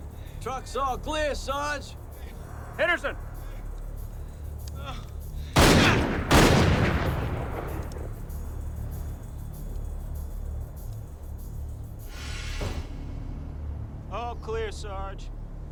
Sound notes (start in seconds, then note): 5.5 gunshots banging